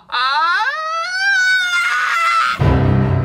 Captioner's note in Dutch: schrille lach